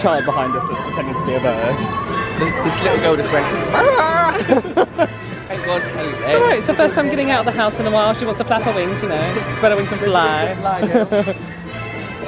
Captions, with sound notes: There's a child behind us pretending to be a bird... This little girl just went *loud bird noise* *Both laugh* It was hilarious! It's her first time getting out of the house in a while, if she wants to flap her wings, spread her wings and fly!